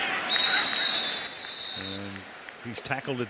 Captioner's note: whistle blows